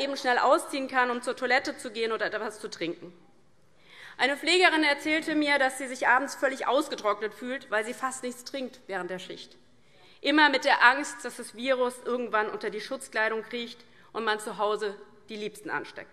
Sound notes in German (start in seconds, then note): none